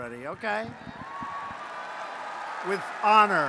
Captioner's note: applause